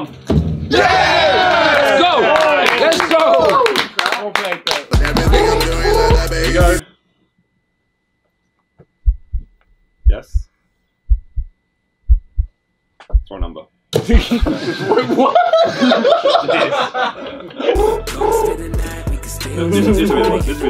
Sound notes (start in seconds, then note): 0.7 all cheering and clapping; 4.9 upbeat music; 9.0 heart beating; 14.0 all laughing; 17.7 upbeat music